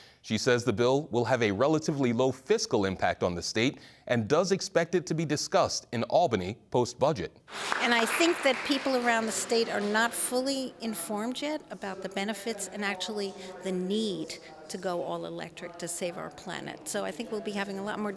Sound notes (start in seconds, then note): 7.5 applause